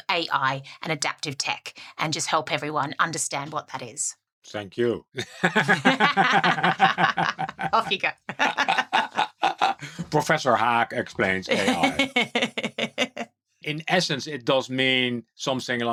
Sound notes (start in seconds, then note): 9.2 both chuckling